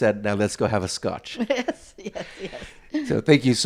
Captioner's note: chuckles